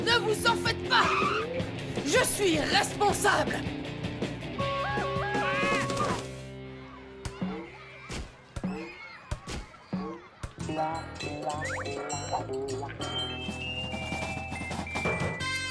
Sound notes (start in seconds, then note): 6.6 schoolyard chatter and laughter